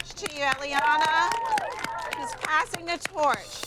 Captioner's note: crowd cheers